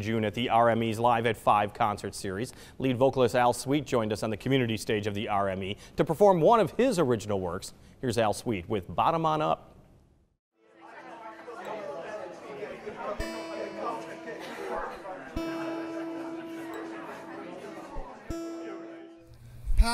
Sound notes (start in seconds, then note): 10.7 audience chattering; 13.2 crowd chattering; 13.2 guitar strums